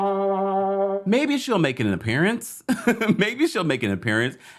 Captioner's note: laughs